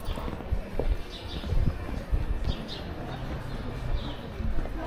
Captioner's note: birds chirping